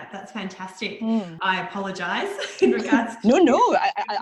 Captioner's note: laughs